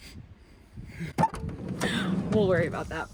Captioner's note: door opening